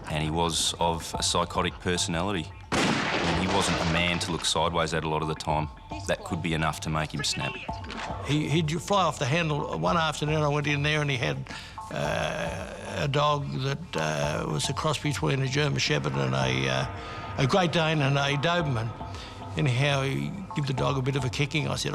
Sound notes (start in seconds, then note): 2.7 gun firing